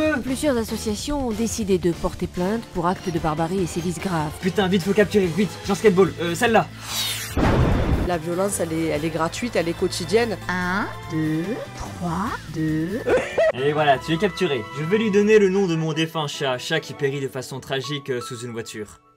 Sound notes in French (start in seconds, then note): 7.3 Fwiiiish BOOOM